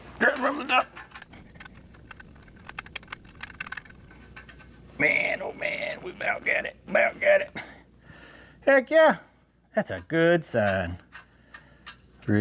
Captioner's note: gasping; clicking